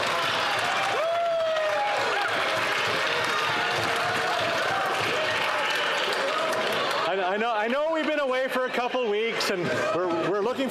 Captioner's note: some Applause